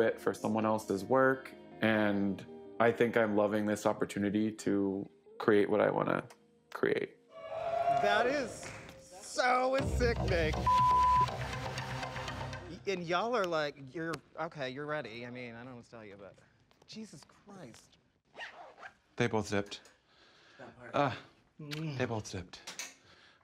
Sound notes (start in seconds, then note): 10.6 beep; 13.7 snaps; 18.2 zipper zips